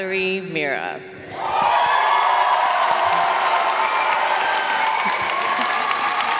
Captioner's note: audience cheering and applauding